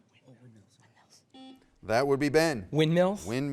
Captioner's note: buzzer beeps